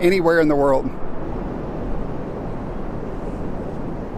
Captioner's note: air whooshing